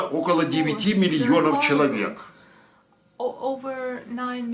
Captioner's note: foreign language